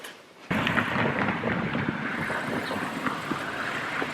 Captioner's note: car driving up